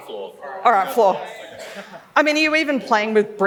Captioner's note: laughs